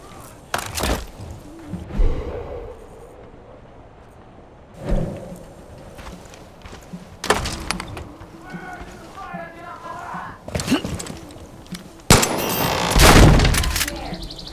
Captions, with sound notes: Swear to the fire, get up on that! (gunshots) Get outta here!